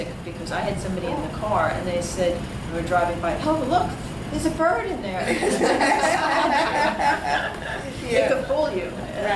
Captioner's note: all laugh